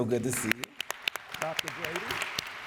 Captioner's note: audience applauds